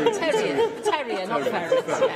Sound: laughter

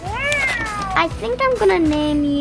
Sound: cat meows

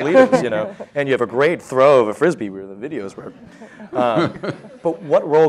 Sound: Sadhguru laughs

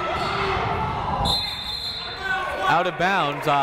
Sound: whistle blowing

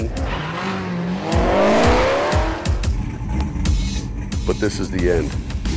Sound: car engine roaring

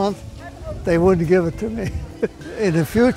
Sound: laughs

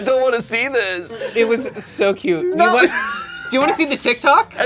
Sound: laughter

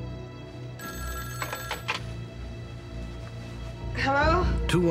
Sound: phone rings

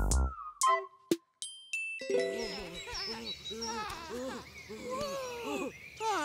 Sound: laughs

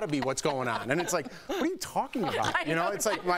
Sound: laughter

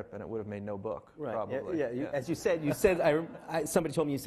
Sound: laughing

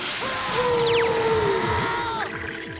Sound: screaming

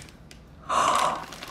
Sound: gasp

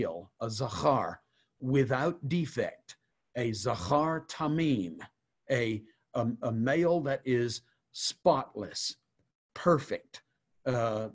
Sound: Hebrew

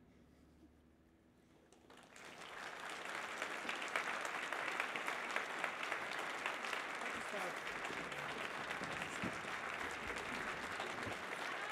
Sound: applause

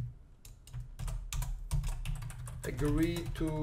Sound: typing

